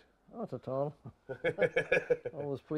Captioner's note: laughs